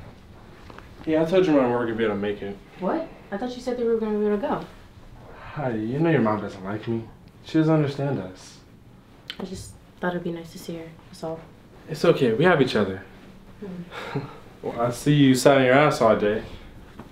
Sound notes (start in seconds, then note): 13.7 Jordon Chuckles